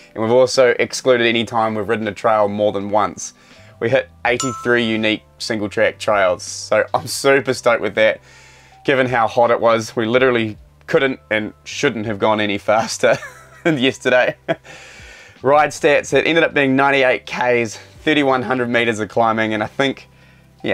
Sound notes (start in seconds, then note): 4.4 number dings; 13.2 chuckles